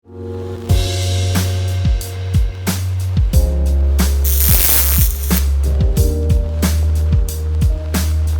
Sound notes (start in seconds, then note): 0.6 mellow music; 4.2 electricity crackles